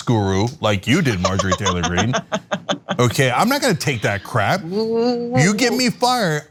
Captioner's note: laugh